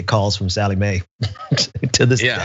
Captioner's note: laugh